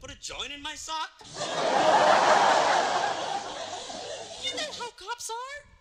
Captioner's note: laughter